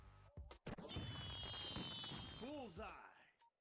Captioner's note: fireworks popping